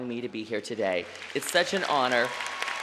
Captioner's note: applause